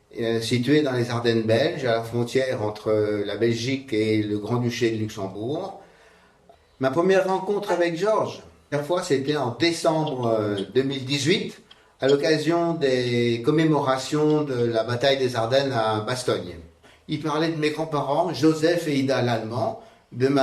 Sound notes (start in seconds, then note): 0.7 speaking in French